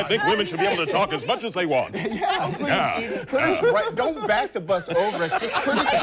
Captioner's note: laughing